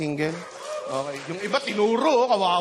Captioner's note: scattered applause